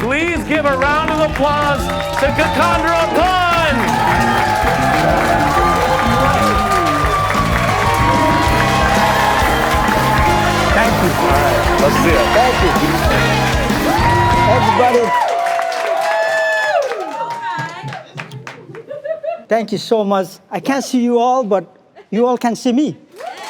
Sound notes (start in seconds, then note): 3.9 crowd loudly applauding; 18.6 crowd cheering